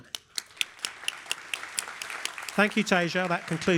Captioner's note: applause